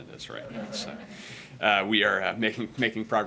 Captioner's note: laughter